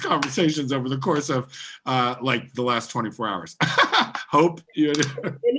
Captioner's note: laughing